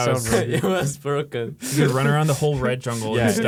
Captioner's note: laughs